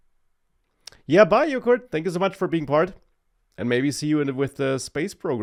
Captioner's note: clicks tongue